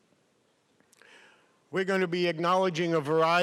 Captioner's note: none